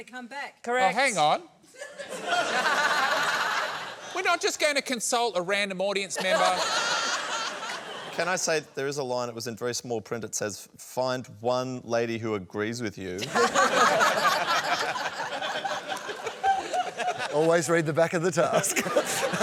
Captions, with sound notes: Correct. Oh, hang on. (LAUGHTER) We're not just going to consult a random audience member. (LAUGHTER) Can I say that there is a line that was in very small print, it says, "Find one lady who agrees with you." (LAUGHTER) Always read the back of the task.